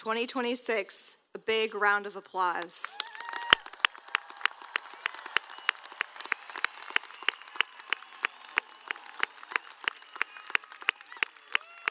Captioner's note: applause